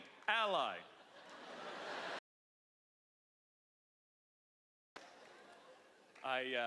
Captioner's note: laughter